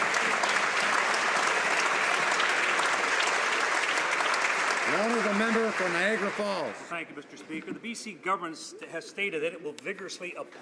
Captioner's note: some Applause